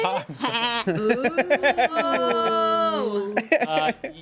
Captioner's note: man laughs